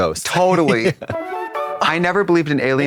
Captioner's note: bright chime